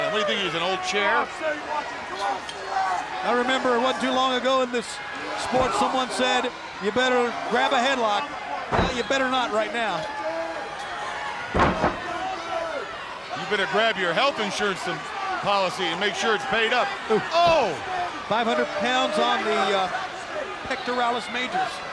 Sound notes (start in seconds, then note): 1.4 audience yelling; 8.7 wrestler banging; 11.5 body banging